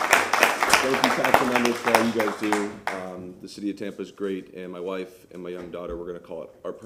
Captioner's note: applause